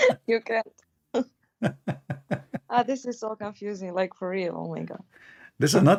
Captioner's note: Ketawa